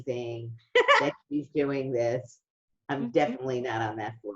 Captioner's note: giggles